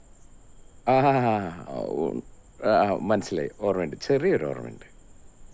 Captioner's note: stammers